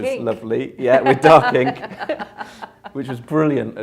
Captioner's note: both laughing